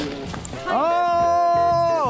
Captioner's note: airhorn noises